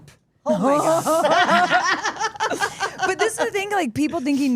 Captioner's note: group laughs